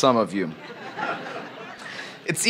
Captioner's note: laughter